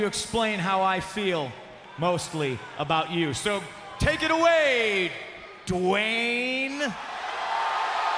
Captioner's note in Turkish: Alkış